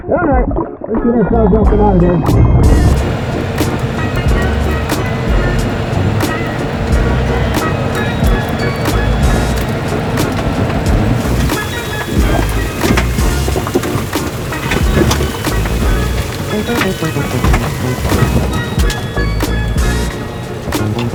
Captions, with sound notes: All right, we can get ourselves up and out of here. (upbeat instrumental music) (tow truck winch whirring) (water trickling)